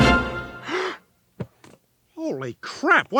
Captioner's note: Peter gasps